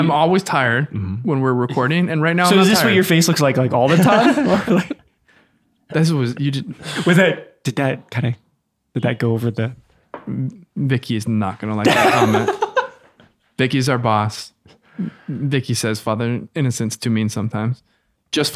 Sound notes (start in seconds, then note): 3.8 laughs; 11.8 laughs